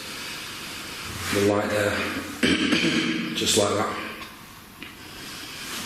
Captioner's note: clearing throat